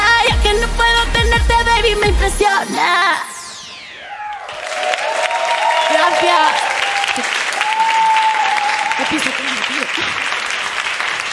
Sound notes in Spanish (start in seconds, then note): 2.8 Aplausos; 6.8 Aplausos y ovaciones